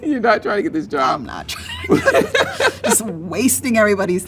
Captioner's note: laughs